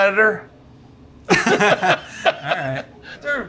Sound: laughing

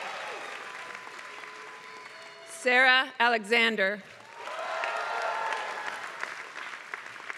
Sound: applause

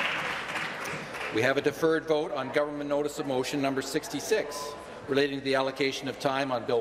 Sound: applause

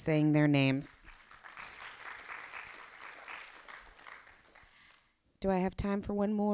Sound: applause

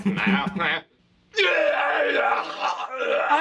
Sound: deranged screaming

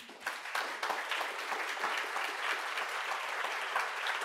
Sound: people clapping

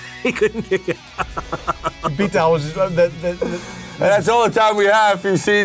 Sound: laughs

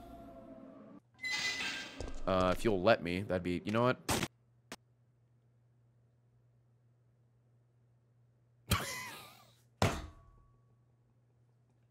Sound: laughs

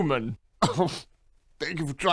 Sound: scoff

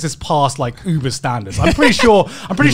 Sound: laughing

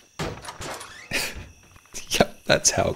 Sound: laughs

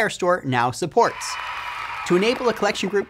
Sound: applause

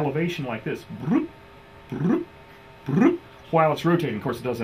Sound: imitates beeping

